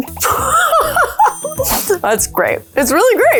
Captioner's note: laughs